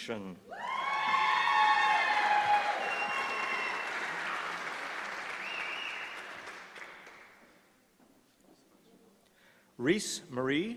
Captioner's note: applause